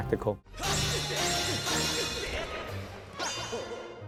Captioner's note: swords clashing